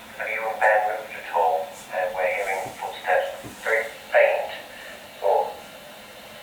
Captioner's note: walkie talkie